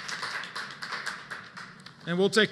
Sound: applause

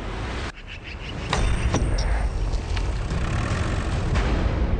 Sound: mallet striking

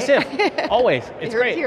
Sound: laughing

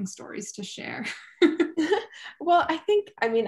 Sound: chuckling

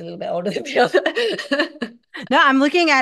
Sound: laughs

